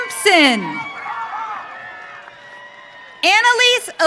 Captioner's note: audience cheering